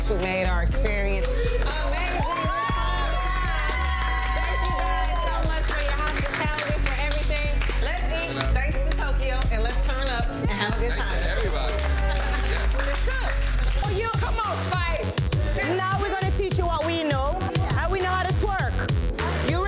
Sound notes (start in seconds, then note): 1.6 group cheering; 10.5 group applauding